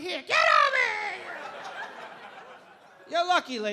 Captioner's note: audience laughing